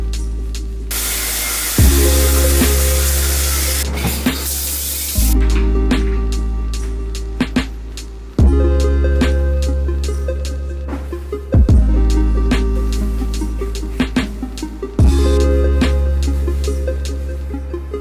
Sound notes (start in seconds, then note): 0.9 electric toothbrush vibrating; 5.4 bright upbeat music